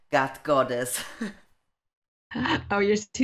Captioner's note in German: lacht